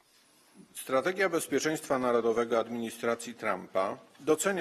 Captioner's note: speaking polish